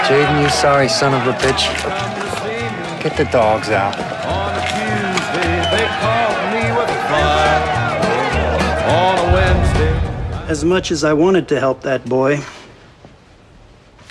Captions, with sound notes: 'Get the dogs out.' [yelling continues] As much as I wantd to help that boy